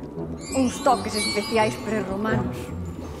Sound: bells tinkling

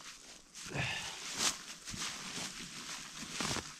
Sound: foliage rustling

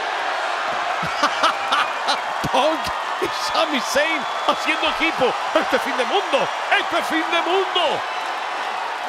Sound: laugh

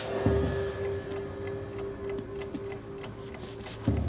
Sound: clock ticks

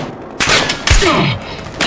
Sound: bullet impact

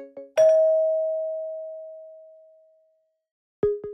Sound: bell dings; inquisitive electronic music

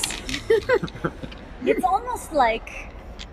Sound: laughter

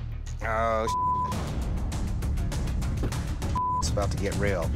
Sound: beep

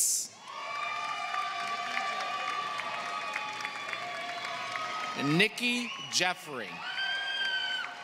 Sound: applause

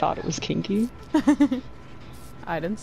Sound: giggles

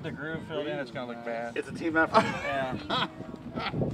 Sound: laughing

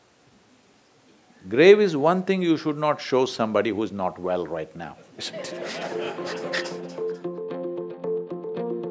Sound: laughter

